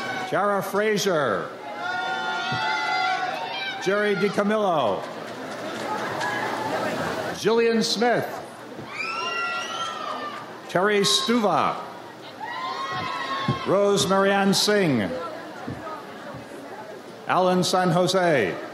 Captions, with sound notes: Teaira Frazier. Jerry DiCamillo. Jillian Smith. (audience cheers) Terri Stuva. Rose Maryann Singh. Alan San Jose.